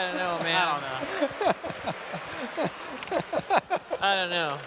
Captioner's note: laughs